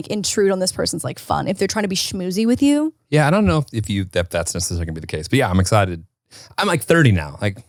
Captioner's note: none